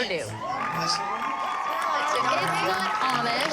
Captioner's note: applause and cheering